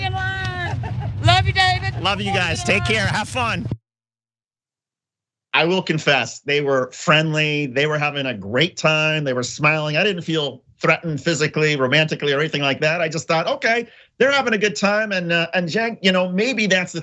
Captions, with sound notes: >> I was just talking online. >> [LAUGH] >> Love you David. Love you guys, take care, have fun. I will confess they were friendly, they were having a great time, they were smiling, I didn't feel threatened physically, romantically or anything like that. I just thought, okay they're having a good time and maybe that's the thing that